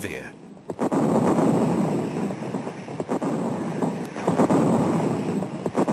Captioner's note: heavy artillery booming